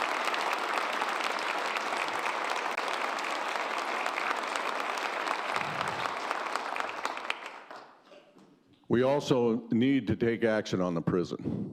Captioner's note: applause